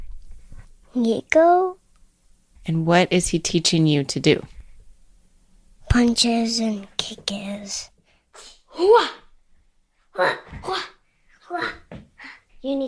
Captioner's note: sounds of karate